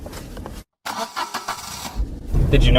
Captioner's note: car engine starting